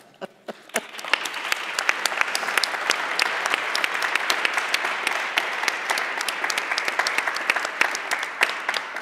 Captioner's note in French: Applaudissements